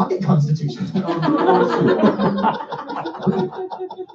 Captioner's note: laughter